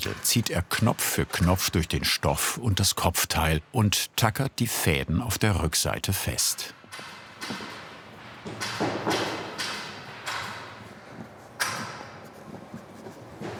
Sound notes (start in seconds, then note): 8.4 tapping and hammering in the background